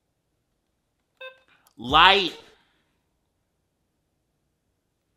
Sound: diary beeps

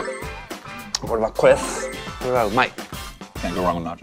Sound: graphics dinging; Takeru speaks Japanese

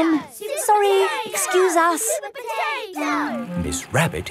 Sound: children chanting

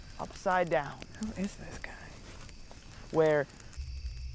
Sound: whispers

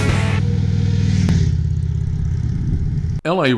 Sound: motorcycle engine roaring

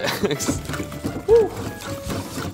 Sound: giggles; eggs splashing

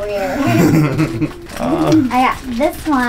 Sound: laughter

